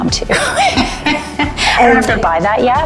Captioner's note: both laugh